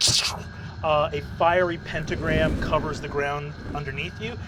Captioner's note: normal voice